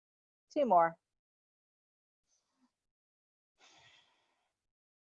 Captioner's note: breathes deeply